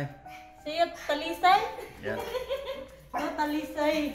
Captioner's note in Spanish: Risas